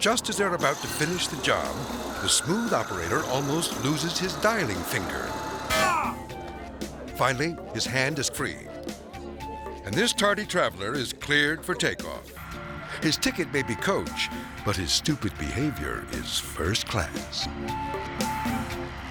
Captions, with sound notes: But just as they're about to finish the job, the smooth operator almost loses his dialing finger. (person grunts) Finally, his hand is free, and this tardy traveler is cleared for takeoff. His ticket may be coach, but his stupid behavior is first class.